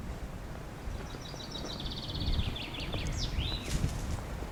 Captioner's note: birds Chirping